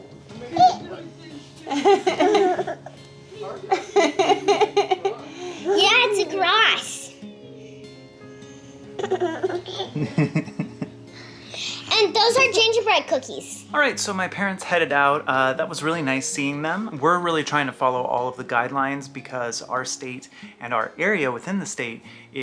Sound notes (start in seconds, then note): 1.6 mom laughing; 7.7 soft guitar music; 8.9 baby giggling; 10.4 dad chuckling